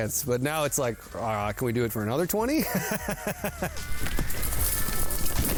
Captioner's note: laughs